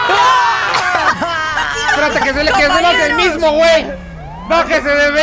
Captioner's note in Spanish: gritan